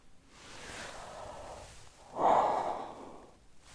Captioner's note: yawns